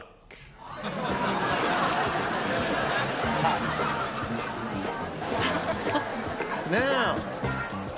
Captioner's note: laughter